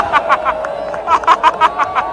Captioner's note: clap